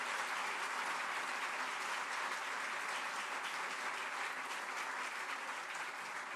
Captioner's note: applause